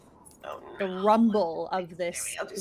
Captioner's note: speaks faintly